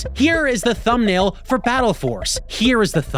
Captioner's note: none